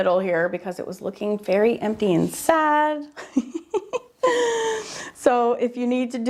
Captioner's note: laughs